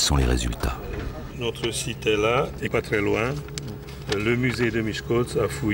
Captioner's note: French spoken audio